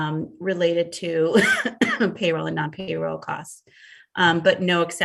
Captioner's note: coughs